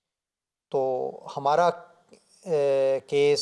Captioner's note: Arabic